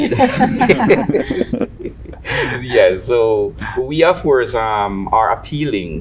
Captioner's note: panel members laughing